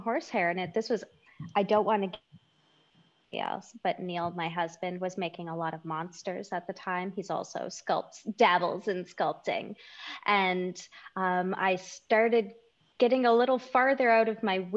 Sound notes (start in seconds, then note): 0.1 audio distorted